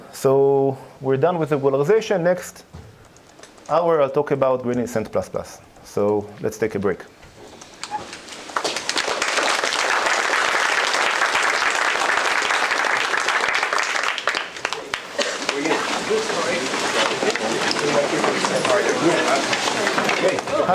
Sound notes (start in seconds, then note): 7.9 applause; 14.5 background chatter